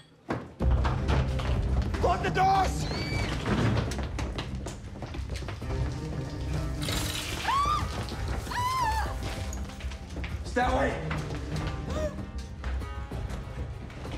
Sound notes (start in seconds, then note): 0.1 dramatic orchestral music; 4.5 water splashes; 8.4 woman screams; 11.4 woman gasps